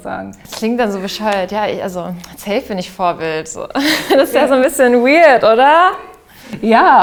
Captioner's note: laughter